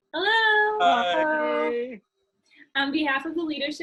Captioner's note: overlapping chattering